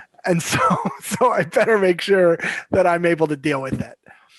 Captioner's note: chuckles